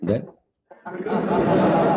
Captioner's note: laughter